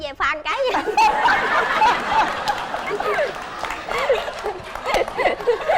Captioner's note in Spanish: risa